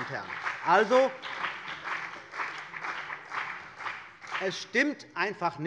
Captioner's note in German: Beifall bei dem BÜNDNIS 90/DIE GRÜNEN und der CDU